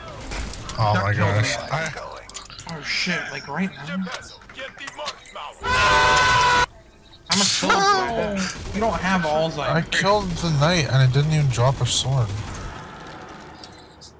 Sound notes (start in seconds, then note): 5.5 Kirby falling into a ravine Sound effect; 7.2 chuckles